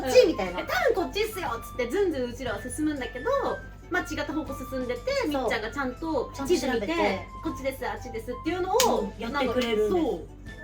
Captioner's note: laughs